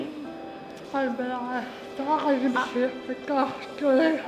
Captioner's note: talking